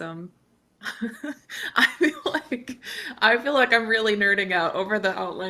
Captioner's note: chuckles